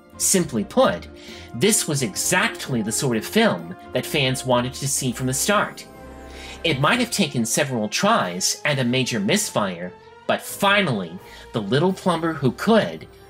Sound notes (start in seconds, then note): none